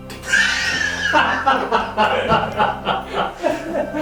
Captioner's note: laughter